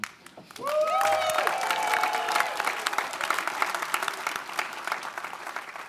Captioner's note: audience applauds; audience cheering